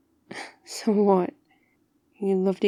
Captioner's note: laughs